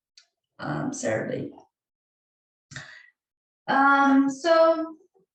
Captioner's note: pause; pause